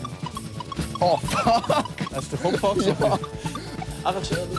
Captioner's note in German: Lachend